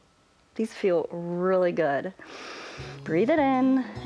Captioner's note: inhales